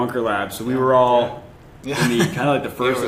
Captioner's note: laughter